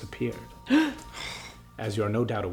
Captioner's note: gasps